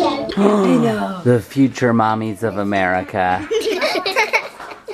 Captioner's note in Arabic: يضحك; صيحات; البنات يضحكون